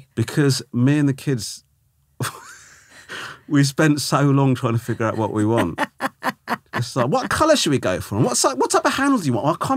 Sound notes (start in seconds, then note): 2.2 Romesh laughing; 4.7 laughing